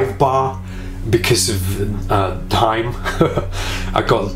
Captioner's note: laughs